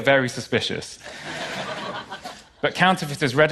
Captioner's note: laughter